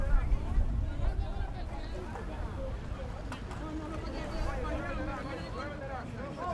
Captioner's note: players yelling in foreign language